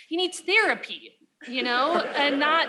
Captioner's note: laughter